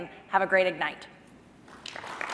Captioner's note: applause